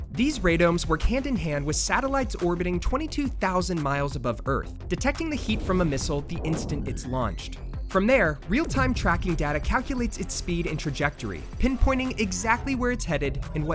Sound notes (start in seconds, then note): 7.4 missile whirring